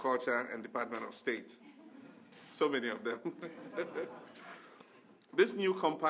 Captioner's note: laughter